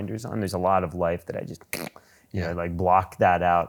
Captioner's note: blows raspberry